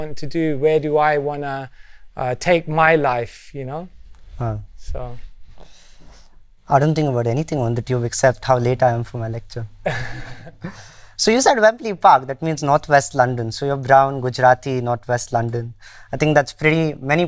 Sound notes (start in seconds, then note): 9.8 laughter